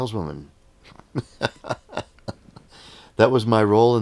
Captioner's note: laughing